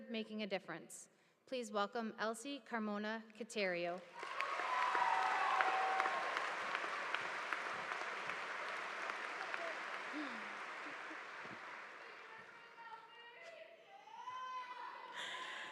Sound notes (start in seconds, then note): 4.3 students shouting; 12.6 student shouting